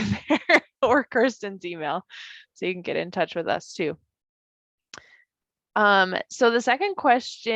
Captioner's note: laughs